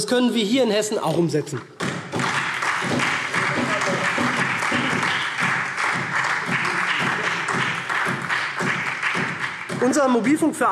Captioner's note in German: Beifall SPD